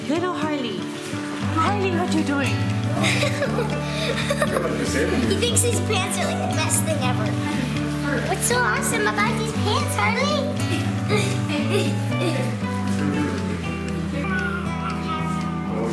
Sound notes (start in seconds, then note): 2.9 laughter; 11.0 laughter; 11.7 smooth music